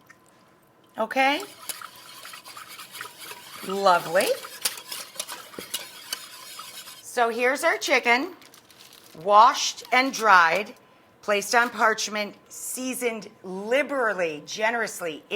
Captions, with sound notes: Okay. (whisk scrapes bowl) Lovely. So here's our chicken, washed and dried, placed on parchment, seasoned liberally, generously